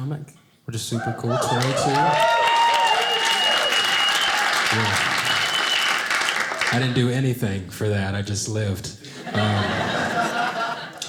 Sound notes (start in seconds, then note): 1.4 audience applauding